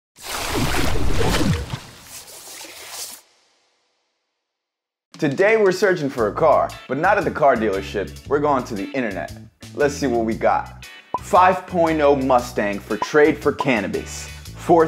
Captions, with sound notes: (splashing) - Today, we're searchin' for a car, but not at a car dealership. We're going to the Internet. Let's see what we got. 5.0 Mustang for trade for cannibis.